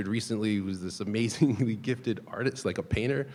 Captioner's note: chuckling